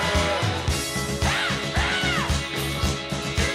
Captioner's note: shrieks